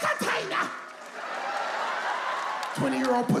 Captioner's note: audience laughs